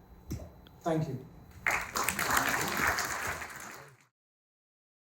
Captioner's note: applause